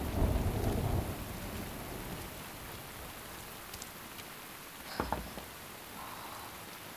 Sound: thunder

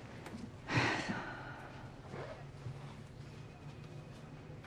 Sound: sighs

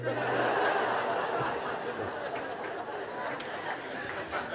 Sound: laughter

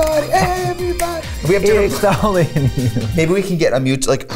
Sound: laughs

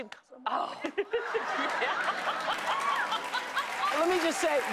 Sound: laughing

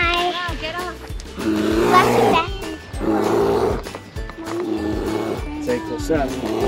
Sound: bear growling sound effect

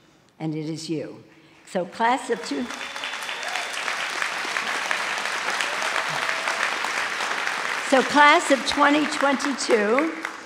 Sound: applause

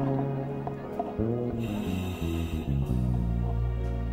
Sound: scuba breathing

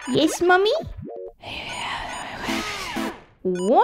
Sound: whispering

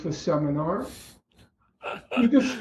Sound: laughter

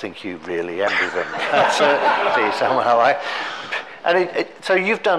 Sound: all laughing

